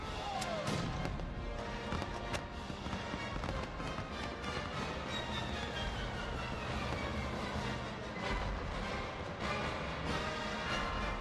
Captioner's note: soldiers shouting